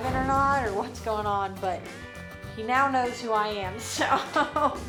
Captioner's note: chuckles